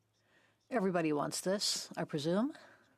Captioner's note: speaking French